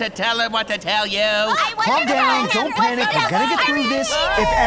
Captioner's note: arguing; eerie whining